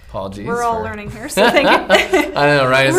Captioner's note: laughing; chuckles